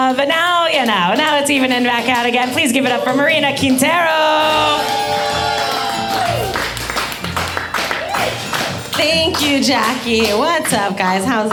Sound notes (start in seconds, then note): 4.3 spooky music; 5.0 audience cheering